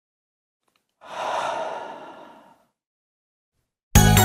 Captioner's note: deep sigh